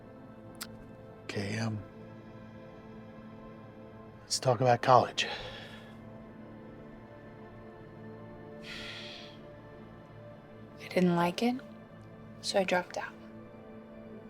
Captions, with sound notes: OK, um, let's talk about college. [sighs] I didn't like it, so I dropped out.